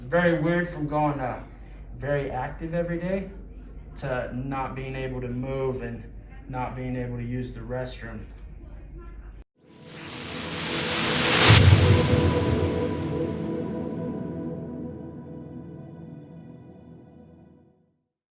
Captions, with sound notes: Very weird from going very active every day, to not being able to move and not being able to use the restroom. (whooshing)